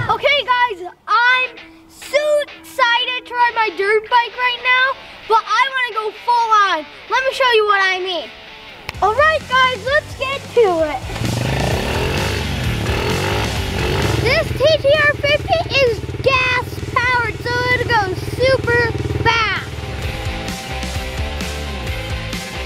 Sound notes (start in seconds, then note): 0.0 child screams; 11.5 engine revs; 20.0 upbeat music